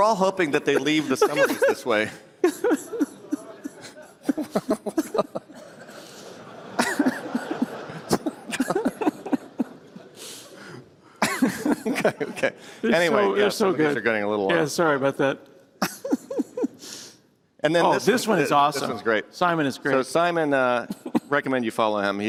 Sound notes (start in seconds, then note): 2.3 laughter; 15.8 laughter